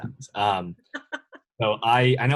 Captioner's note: laughs